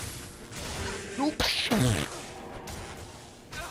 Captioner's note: confused noises